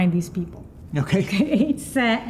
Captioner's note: chuckles